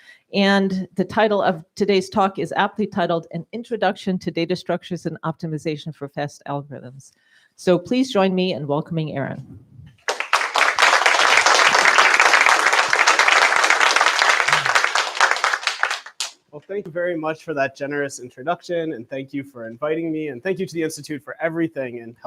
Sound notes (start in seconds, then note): 10.0 applause